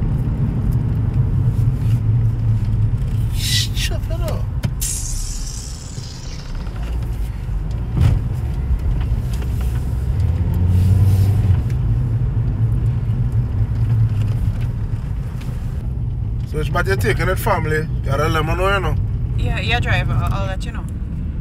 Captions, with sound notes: You stupid or what? [Sucks teeth] So where exactly are you stopping off friend? You have to let me know. Yeah driver, I’ll let you know.